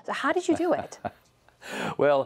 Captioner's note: laughter